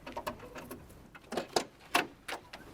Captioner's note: car door opening